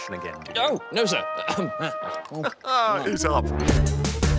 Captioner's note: chuckles